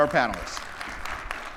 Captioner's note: crowd clapping